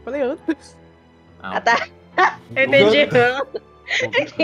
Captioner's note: laughter